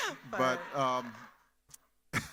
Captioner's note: laughs